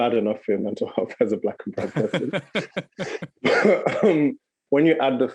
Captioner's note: laughing